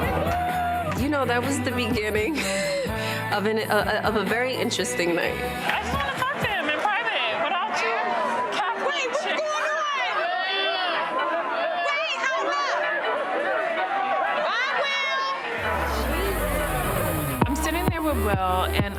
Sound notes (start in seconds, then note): 0.0 upbeat music plays; 11.0 women chattering; 15.6 upbeat music plays